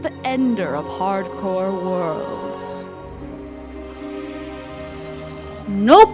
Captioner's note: Baby zombie/husk audio